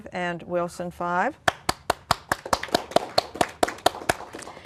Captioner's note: applause